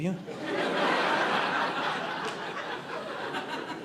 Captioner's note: audience laughing